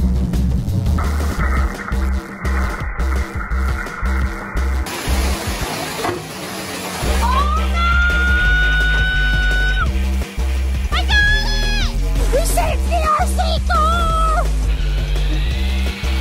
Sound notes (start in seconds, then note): 4.9 water running; 9.3 electronic music